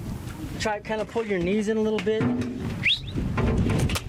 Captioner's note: whistles